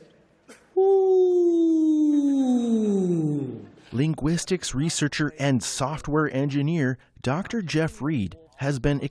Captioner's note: voice-over